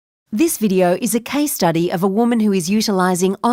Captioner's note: voiceover